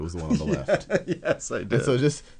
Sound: laughs

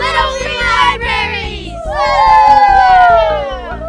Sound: all cheering

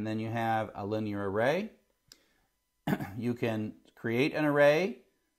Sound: cough

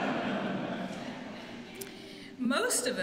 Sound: laughter

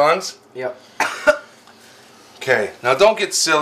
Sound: coughs

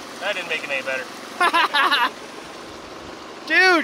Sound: laughs

